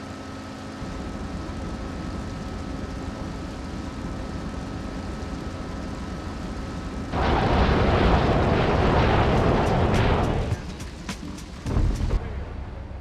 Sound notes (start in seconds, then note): 1.8 engine roaring; 1.8 tires screeching